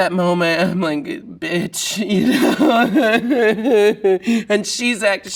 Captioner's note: laughs